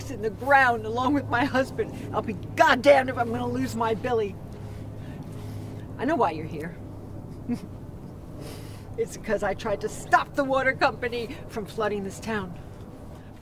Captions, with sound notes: in the ground along with my husband. I'll be Goddamned if I'm gonna lose my Billy. I know why you're here. (laughs) It's 'cause I tried to stop the water company from flooding this town.